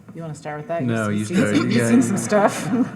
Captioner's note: audience laughing